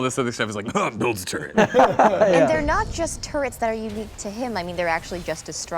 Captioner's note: cough